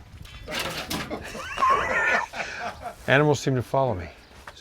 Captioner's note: both laugh